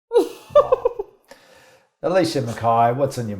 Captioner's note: laughs